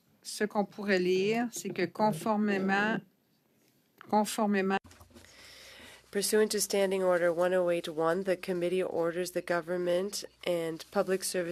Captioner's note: speaking French